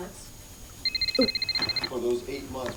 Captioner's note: phone rings